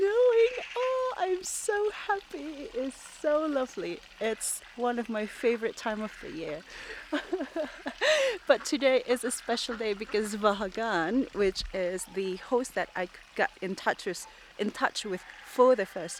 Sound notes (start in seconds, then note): 6.6 laughs